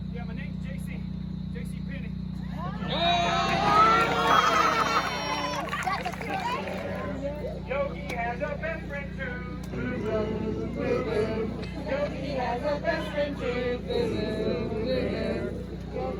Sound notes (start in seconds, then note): 3.0 laughing and clapping